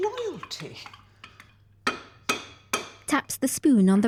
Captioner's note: spoon tapping